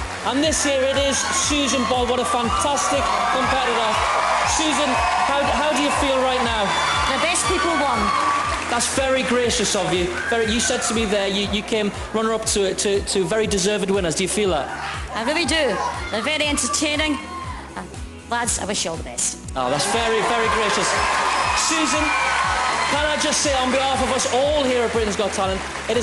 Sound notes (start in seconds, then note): 19.7 applause